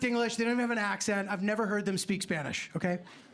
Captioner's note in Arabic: none